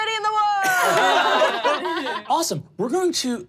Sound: laughing

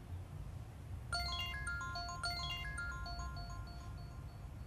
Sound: mobile ringing

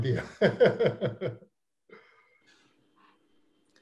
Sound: laughs

